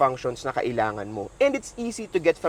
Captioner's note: none